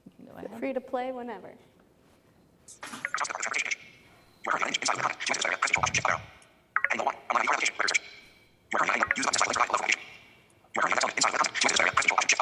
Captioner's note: sped up recording of a speaker